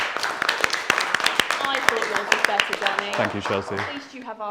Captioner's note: applause